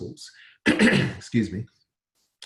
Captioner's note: clears throat